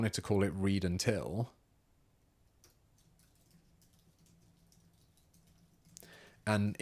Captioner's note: silence